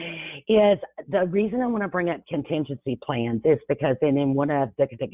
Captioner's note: chuckles